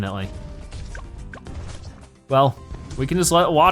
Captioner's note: weapons firing